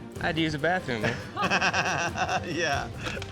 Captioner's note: laughter